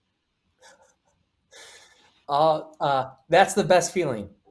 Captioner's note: chuckles